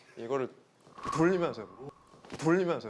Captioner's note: wooosh